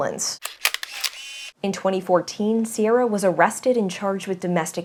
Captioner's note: camera click